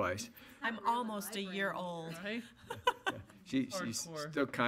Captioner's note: laughs